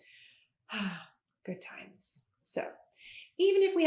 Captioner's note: sighs